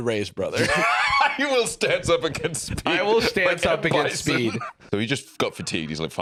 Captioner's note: laughing